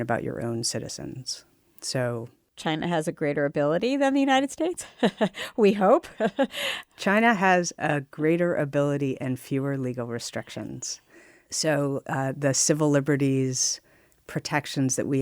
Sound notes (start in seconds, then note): 6.0 laughs